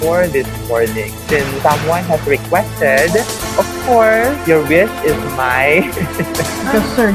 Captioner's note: laughs